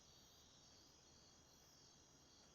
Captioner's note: crickets chirping